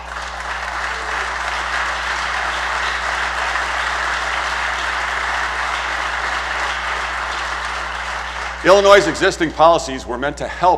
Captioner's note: applause